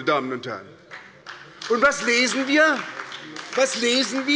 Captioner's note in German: Beifall bei der SPD